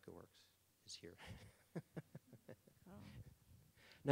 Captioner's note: laughing